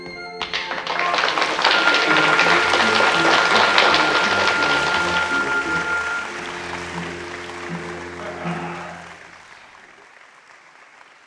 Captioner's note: orchestra music; applause